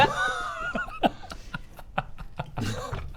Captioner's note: proud giggles